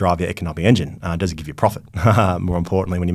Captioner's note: laughs